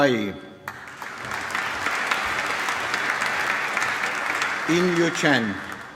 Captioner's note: applause